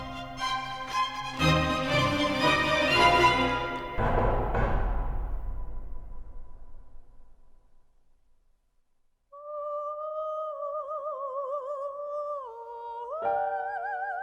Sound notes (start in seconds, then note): 0.0 dramatic music; 4.1 knocking; 9.8 somber opera music